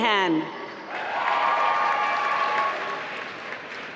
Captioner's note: applause